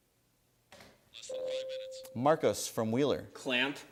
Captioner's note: ding